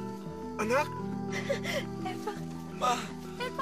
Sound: chuckles

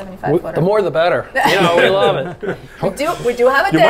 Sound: all chuckling

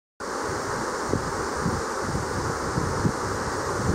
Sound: river roaring

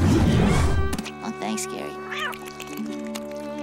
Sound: meowing

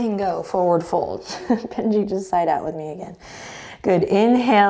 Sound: chuckles

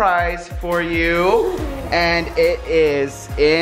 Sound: giggles

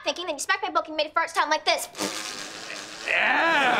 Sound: razzing

